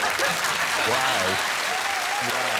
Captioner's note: applause